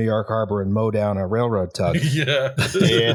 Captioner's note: laughing; laughter